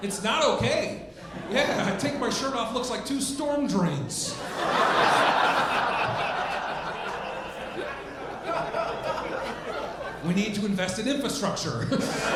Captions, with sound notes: It's not okay. Yeah, I take my shirt off, it looks like two storm drains. (audience laughing) We need to invest in infrastructure.